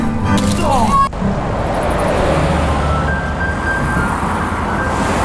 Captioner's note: traffic sounds